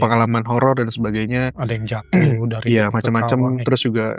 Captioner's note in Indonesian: berdehem